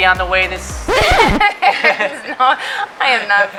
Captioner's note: record scratch